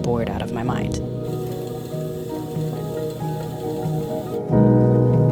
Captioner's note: gear whirring